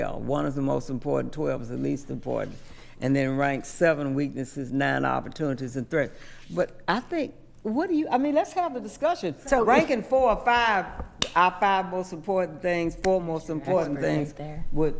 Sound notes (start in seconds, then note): 11.0 claps hands